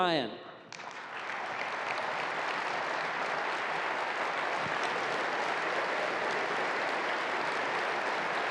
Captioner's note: applause